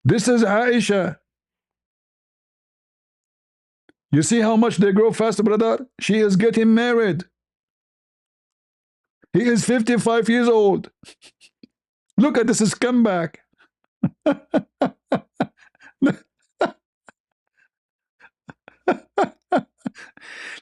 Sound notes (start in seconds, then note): 14.0 ketawa